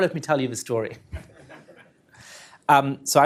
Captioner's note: laughter